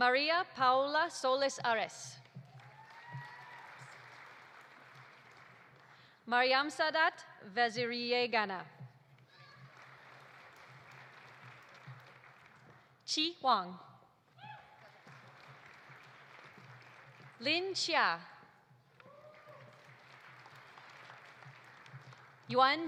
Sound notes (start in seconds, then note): 2.4 audience applauding; 2.5 audience cheering; 9.3 audience applauding; 14.4 audience applauding; 18.8 audience applauding